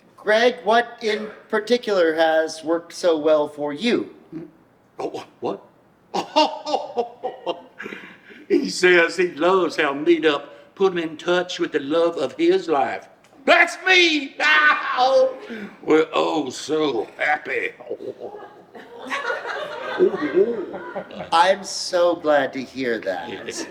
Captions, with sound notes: Greg, what in particular has worked so well for you? - Oh, what? (laughs heartily) He says he loves how Meet Up put him in touch with the love of his life. That's me! (laughs) Oh, we're oh so happy. (laughs) (audience laughs) - I'm so glad to hear that. - Yes.